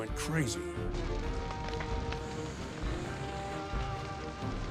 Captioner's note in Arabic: طقطقة النار